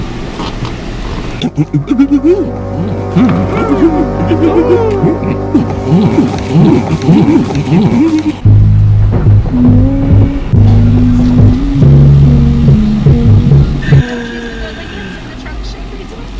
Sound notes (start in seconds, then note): 6.2 pleasured Moans